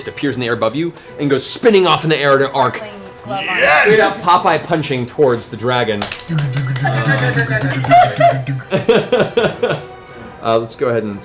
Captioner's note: laughs